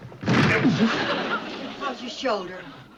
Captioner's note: thud